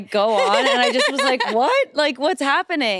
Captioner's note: chuckles